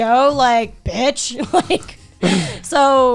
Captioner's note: laughs